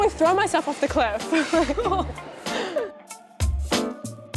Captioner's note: laughing